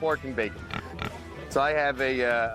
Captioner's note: pig grunting